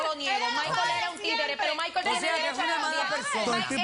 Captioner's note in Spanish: Comentarios al unísono